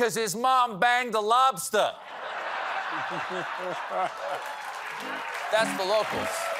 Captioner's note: laughter